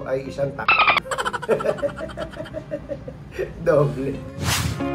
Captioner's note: laugh